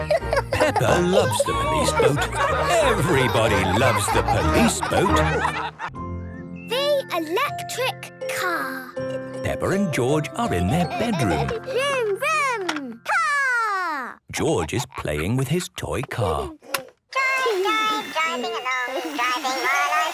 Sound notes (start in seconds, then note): 3.0 giggling